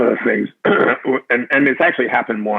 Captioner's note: clears throat